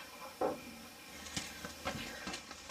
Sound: cricket chirping; thud; rustling sound

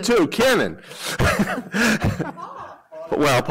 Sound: laughter

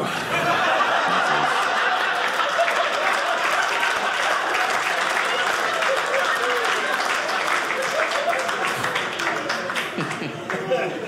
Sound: audience cheering

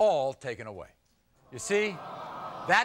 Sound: crowd sympathizing

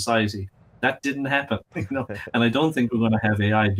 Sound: laughing

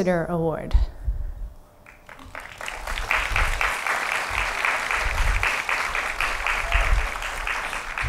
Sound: applause

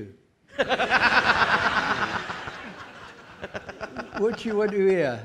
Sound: audience laughing

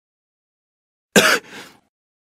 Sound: cough

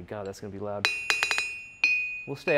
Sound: hammer strikes

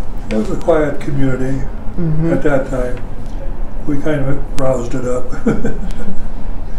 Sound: laughs

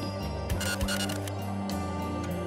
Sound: scratching noise

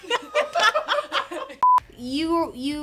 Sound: all laughing; beeb

